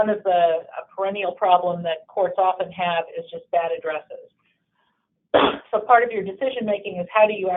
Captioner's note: cough